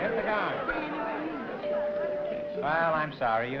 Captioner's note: bell rings